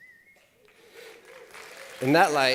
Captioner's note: applause